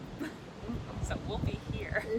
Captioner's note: chuckling